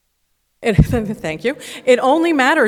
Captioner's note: laughs